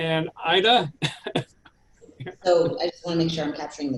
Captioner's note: chuckles